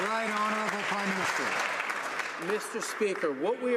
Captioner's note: some Applause